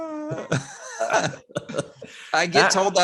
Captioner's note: all laughs